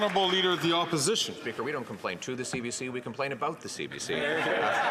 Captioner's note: some Applause